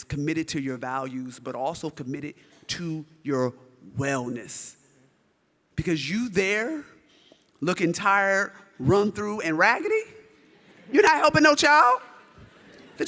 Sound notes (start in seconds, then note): 12.1 audience laughs